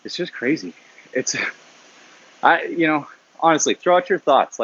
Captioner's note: laughs